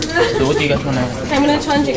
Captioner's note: chatter